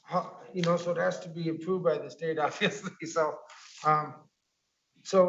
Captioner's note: laughing